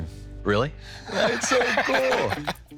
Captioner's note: laughs